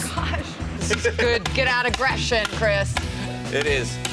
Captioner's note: hammering